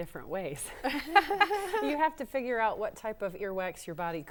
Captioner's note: laughter�